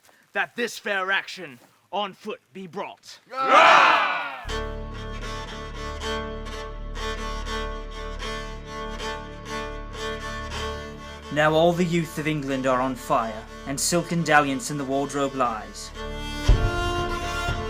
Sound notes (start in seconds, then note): 3.3 men cheer